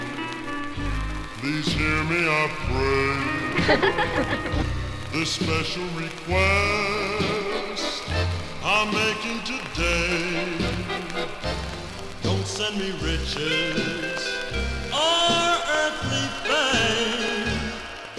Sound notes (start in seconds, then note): 3.5 laughter